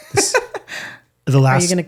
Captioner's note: laughs